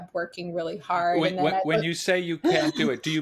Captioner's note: chuckles